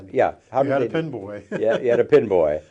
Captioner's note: chuckles